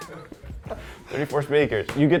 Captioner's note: laughing